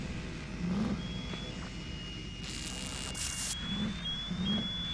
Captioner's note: piercing sound from radio